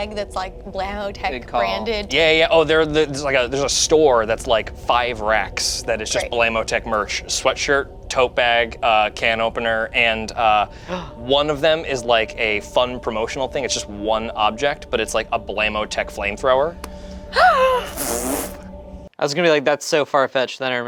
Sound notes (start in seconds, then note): 16.8 gasps; 17.3 laughs